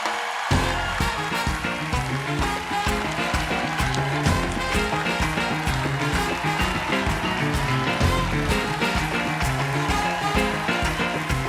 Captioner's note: applause